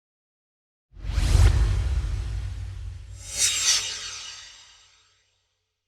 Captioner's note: swoosh